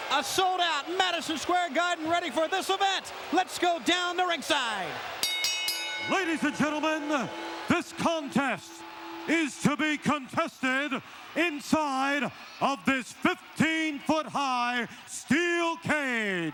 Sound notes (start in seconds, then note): 5.2 bell ringing